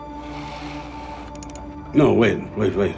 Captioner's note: computer clicking